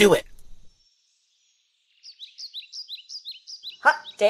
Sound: birds

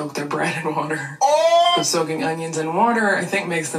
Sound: man shouting

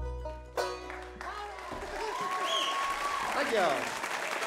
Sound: audience cheers

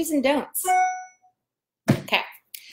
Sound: ding

